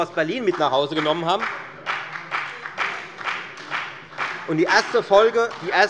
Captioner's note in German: Beifall bei der FDP und bei Abgeordneten der SPD